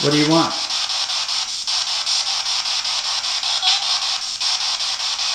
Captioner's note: static